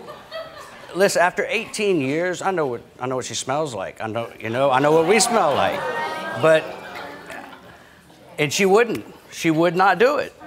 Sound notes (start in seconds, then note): 0.0 audience laughing; 4.7 audience grumbling